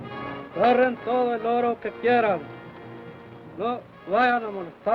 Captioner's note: Chief speaks foreign language